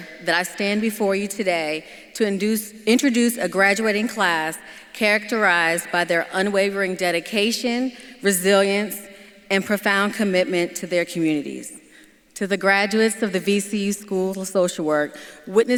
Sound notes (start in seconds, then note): none